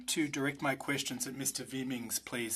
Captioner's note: speaking French